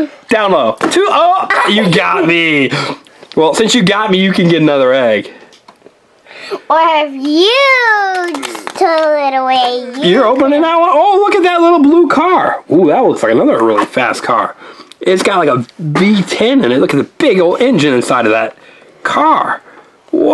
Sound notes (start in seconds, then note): 1.4 assistant giggles